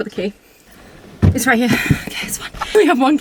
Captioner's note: sigh